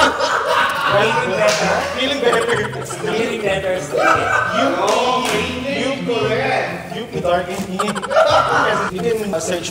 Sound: laugh tremendously

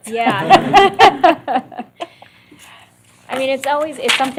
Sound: laughter

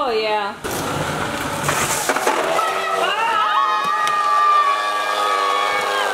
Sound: family screaming; vacuum rattling

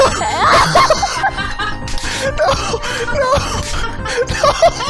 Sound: laughing; laughter continues; distant laughter

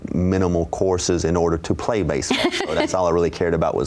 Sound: laughs

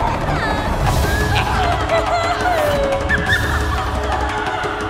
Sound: giggling

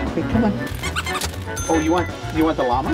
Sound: squeaks toy

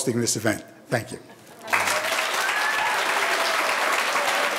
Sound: audience applauding

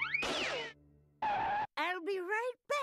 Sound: screeching

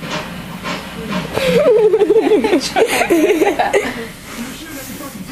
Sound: laugh

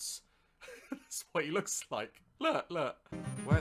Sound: light laughter

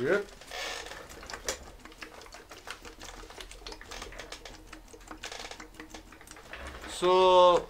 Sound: water gurgling

